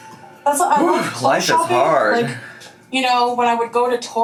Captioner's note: sighs